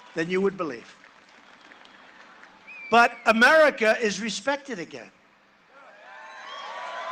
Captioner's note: cheering and applause